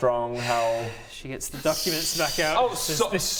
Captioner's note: impatient sigh